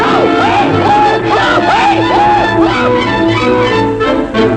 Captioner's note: screams